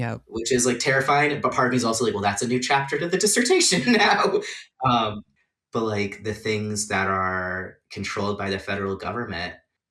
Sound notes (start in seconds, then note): 5.2 laughs